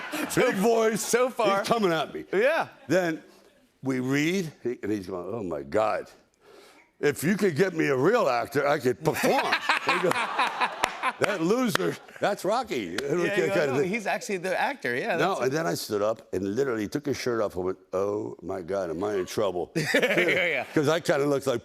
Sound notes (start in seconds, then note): 9.1 laughter